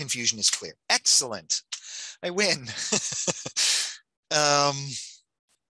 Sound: laughs

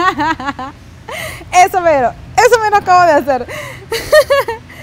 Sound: laugh

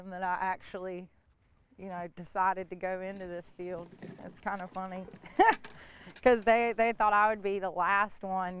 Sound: laughs

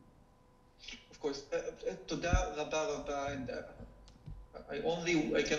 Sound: speaking foreign language

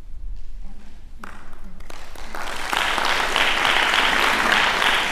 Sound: applause

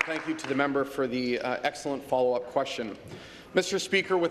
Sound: applause

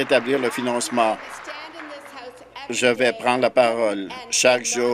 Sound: applause

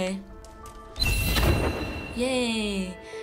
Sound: save chime

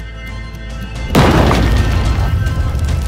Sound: explosion

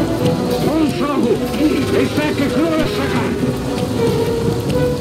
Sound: alian language

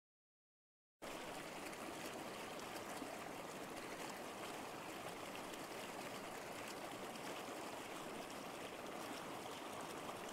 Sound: sound of river

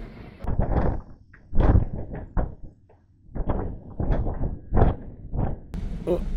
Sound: wind blowing

